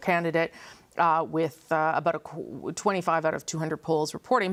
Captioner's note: none